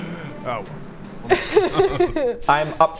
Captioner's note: happy giggles